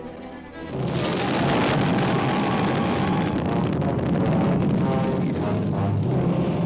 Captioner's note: dramatic orchestral music; explosion booming